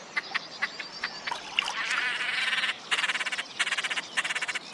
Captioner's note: cackling